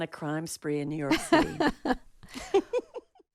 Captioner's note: laughter